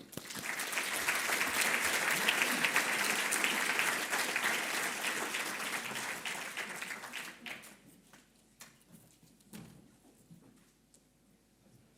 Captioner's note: audience applause